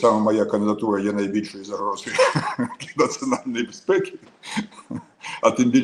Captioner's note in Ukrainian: сміх